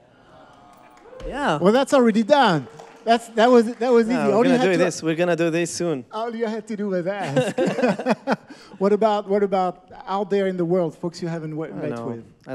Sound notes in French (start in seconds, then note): 0.3 Applaudissement; 7.1 Rires